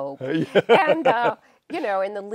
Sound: laughs

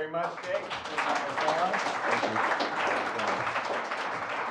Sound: applause

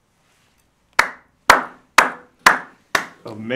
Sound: Officer Thompson claps

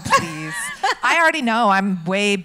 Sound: laughs

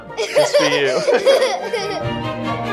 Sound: laughter

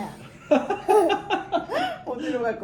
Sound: confused laughter

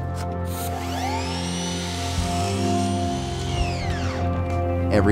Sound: tools whirring

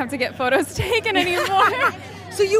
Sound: Emma laughing; laughs

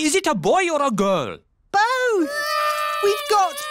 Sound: babies cry

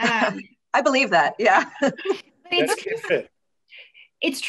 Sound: laughs

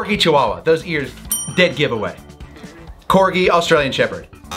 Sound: bell dings

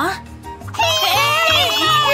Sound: shouting

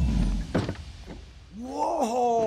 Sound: door closes

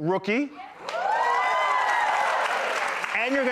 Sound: audience cheering and clapping

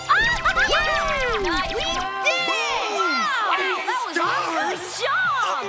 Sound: all cheering

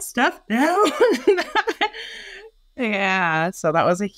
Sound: laughs

